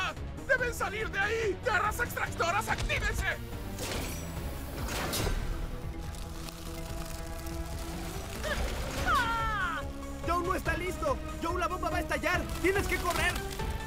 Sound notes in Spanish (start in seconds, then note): 9.0 gritando